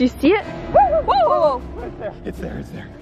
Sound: screaming

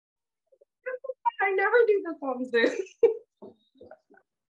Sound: laughs

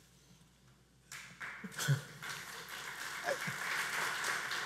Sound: audience applauds

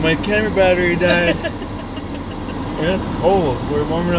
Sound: laughing

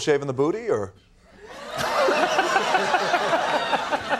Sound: all laughing

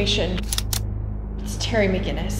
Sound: cocks gun

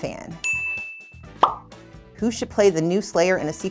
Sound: bell dings; bubble pops

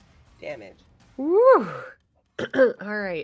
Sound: clears throat

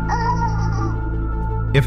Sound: AI child laughing

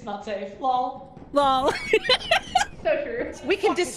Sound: laughs

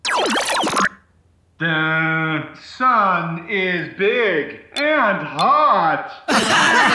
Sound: Tom's voice, slowly; both laugh

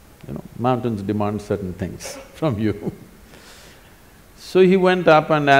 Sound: laughs

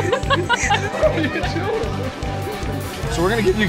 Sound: laughing

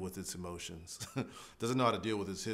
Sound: laughs

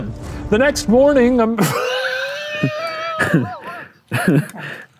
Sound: both laughing

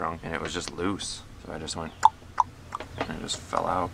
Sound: taps

